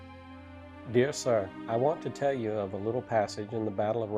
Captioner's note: voiceover